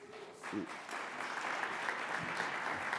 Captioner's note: audience applauds